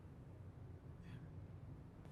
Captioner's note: whispers